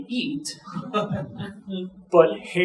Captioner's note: audience chuckling